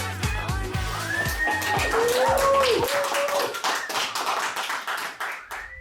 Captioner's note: applause